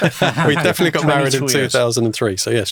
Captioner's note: all chuckle